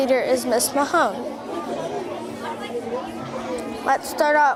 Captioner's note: students chattering